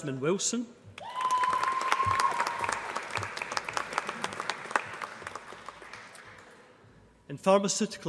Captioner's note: applause